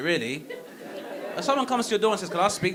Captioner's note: audience laughing